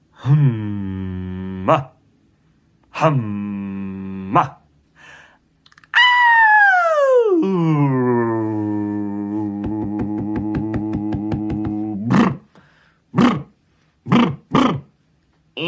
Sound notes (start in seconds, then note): 5.8 vocalizing from high to low; 9.5 thumps; 12.4 lip trills